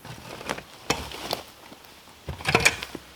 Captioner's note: scraping